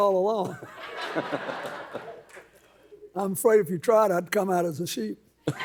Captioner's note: laughs